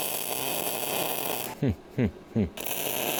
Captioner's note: chuckling